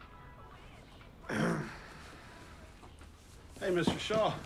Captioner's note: Paul clears throat